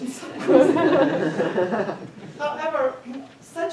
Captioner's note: attendees laughing